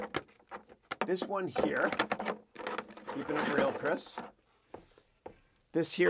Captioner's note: cable noise drowns out dialog